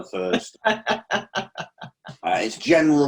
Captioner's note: laughing